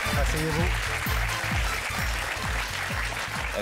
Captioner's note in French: applaudissements